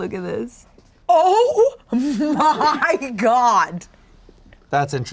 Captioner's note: laughing